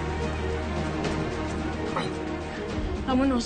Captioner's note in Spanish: Quejido